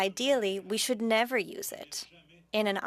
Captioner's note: speaking French